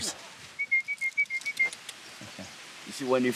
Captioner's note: whistling